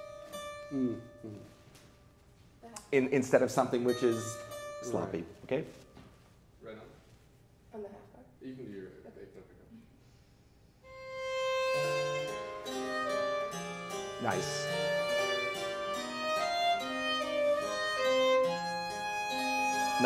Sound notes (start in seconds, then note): 10.0 speaks faintly; 10.9 baroque string and harpsichord music